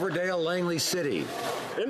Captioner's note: some Applause